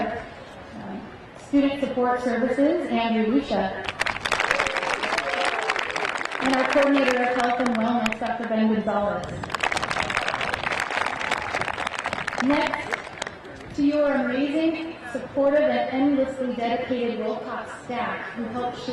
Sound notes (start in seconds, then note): 3.8 crowd applauding; 3.9 crowd cheering; 9.3 crowd applauding; 9.5 crowd cheering